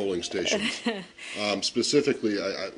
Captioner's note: laughter